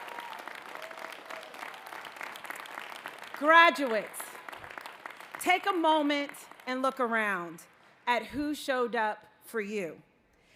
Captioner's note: cheering